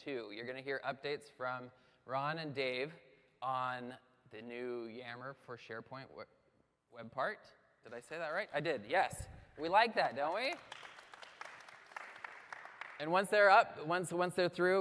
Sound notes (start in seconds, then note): 10.2 applause